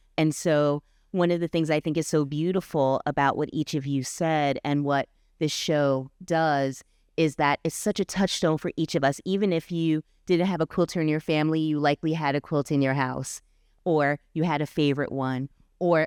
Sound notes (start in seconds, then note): none